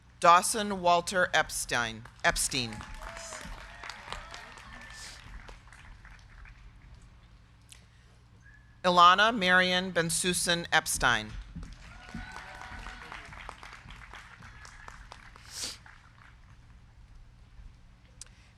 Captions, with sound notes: Dawson Walter Epstein. (crowd cheering) (crowd clapping) Ilana Marion Bensussen Epstein. (crowd cheering) (crowd clapping)